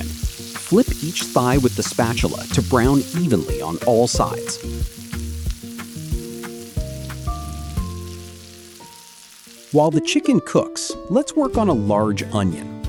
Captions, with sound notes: Flip each thigh with the spatula to brown evenly on all sides. [sizzling] While the chicken cooks, let's work on a large onion.